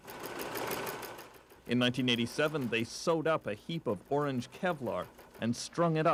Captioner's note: machine whirring